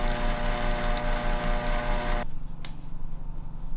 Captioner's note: whirring